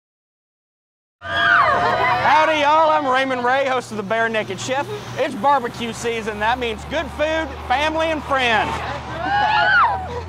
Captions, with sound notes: [Sound of New York City Streets] Howdy Y'all, I'm Raymond Ray host of The Bare Nekked Chef. It's barbeque season and that means good food, family and friends. [Cheers from his friends]